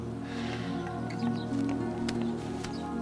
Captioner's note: sighing